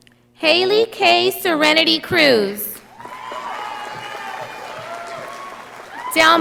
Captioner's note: audience applauding